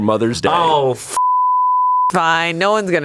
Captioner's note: beep